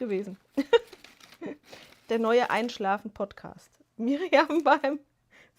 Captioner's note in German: gelächter